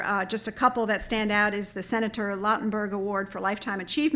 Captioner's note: none